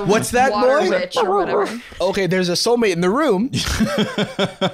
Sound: dog noises; laughing

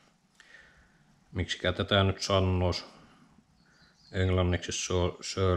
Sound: in finnish

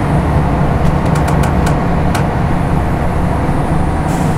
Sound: boat creaks

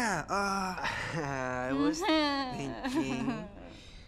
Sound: nervous laughter

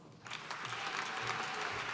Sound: applause

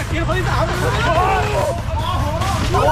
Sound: screaming from coldness

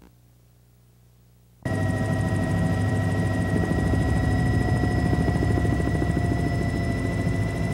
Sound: engine whining

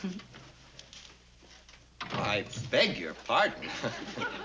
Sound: Ann chuckles; door closes

